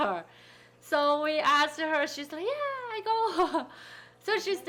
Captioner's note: laughing